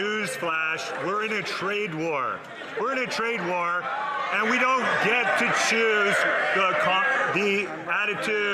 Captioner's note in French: voix de l'interprète